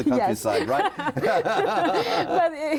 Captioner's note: both laughing